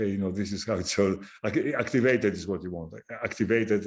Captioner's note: laughing